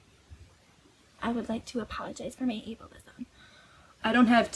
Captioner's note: breathy valley voice